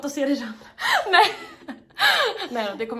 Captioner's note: laughing